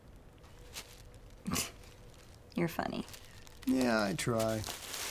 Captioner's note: scoffs